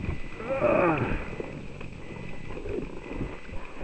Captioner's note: grunting